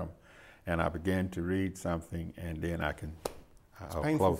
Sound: claps softly

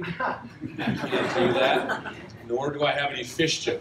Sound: laughter

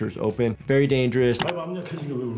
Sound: mouse clicks; man speaking in foreign language

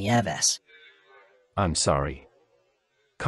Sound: on phone

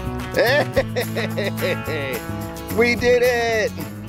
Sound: laughs

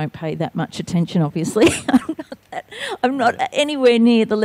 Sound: laughing

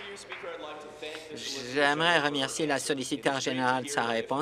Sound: applause

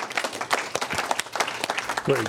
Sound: applause

